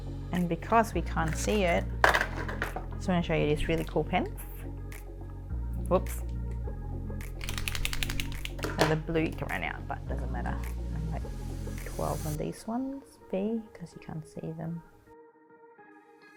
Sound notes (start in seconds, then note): 2.2 clacking; 7.4 rattling